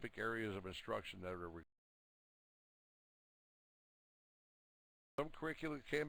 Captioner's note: audio drops